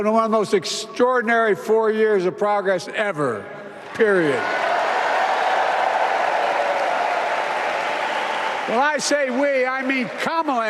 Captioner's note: applause